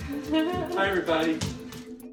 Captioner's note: laughs